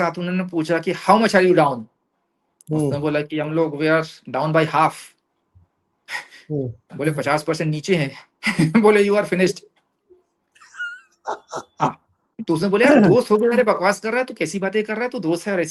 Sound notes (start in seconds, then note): 10.6 laughs